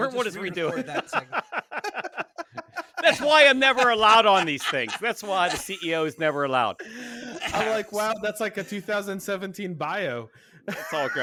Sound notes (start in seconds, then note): 1.5 panelists laughing